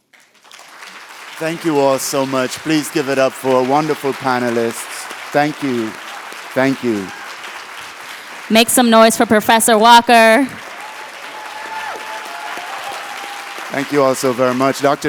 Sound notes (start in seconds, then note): 10.1 applause and cheers